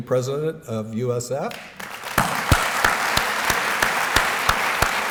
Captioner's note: applause